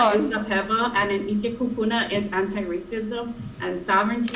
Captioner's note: speaking in foreign language